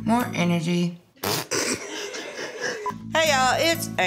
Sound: laughter

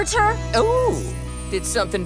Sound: none

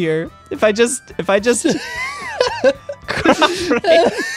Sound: laughing

